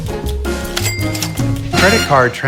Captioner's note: cash register pings